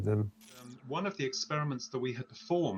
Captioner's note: light crackling